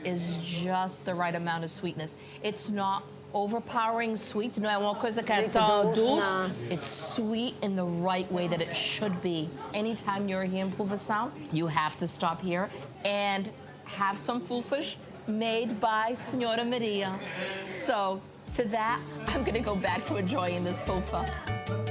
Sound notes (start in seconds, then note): 4.7 both speaking in foreign language; 21.6 easygoing music